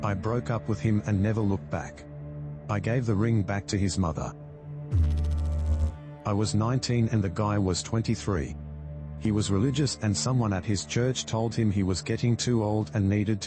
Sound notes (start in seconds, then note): 4.9 electrical noise